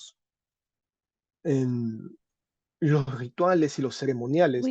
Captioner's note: speaking spanish